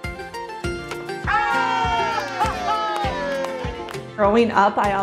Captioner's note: cheering